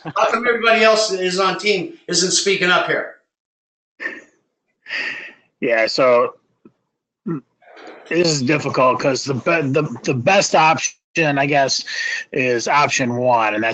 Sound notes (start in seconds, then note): 4.9 laugh